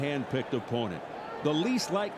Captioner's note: applause